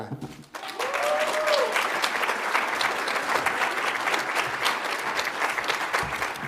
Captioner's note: audience applauds; audience cheers